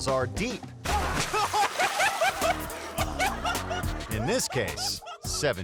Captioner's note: water splashing; man laughing